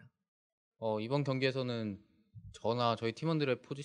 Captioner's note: speaking korean